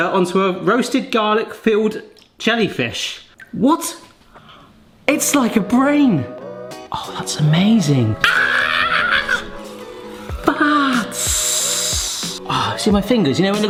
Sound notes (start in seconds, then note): 7.8 cheerful music; 8.2 yells excitedly; 11.1 sucks teeth